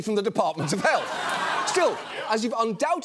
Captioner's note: audience laughs